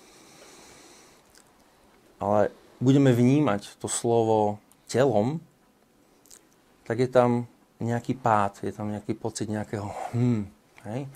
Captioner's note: hums